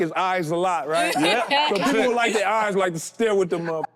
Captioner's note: group laughing